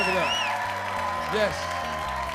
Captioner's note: audience clapping and cheering